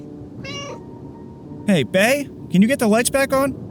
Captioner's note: meow